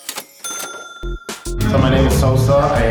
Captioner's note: ding